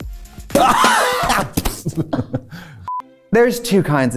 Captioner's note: confetti popping; Katya laughing; beep; classical music